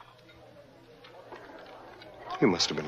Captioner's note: dishes clinking